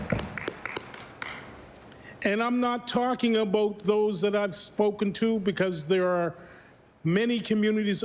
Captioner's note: applause